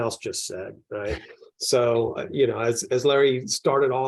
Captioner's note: panelist laughs